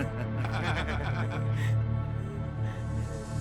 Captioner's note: laughing